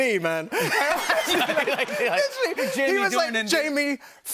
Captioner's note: laughter